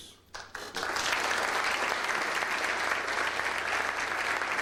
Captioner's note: audience applauds